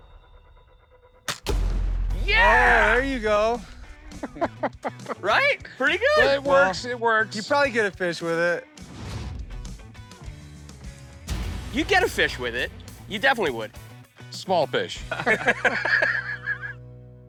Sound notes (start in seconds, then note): 4.0 chuckles; 8.5 upbeat rock music; 15.0 laughter